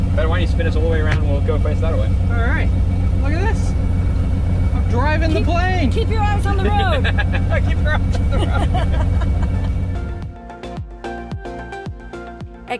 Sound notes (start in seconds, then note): 6.5 laughing; 9.8 soft music